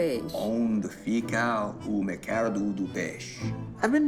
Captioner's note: speaking in Portuguese